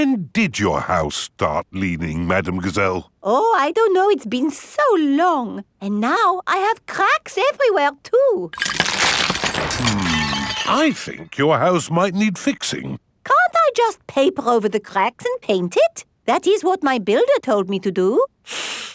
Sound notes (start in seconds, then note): 8.5 cracking